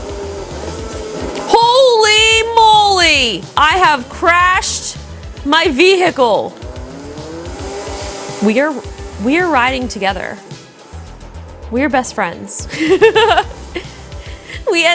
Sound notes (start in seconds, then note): 0.0 car engine roaring; 6.8 car engine roaring; 12.7 laughs